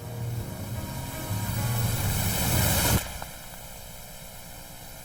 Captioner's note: static hissing